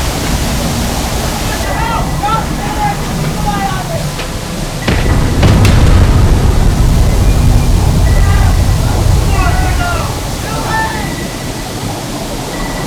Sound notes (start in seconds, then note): 4.8 explosions